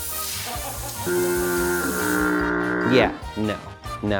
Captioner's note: ship foghorn blows